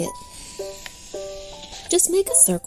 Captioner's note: pencil scratching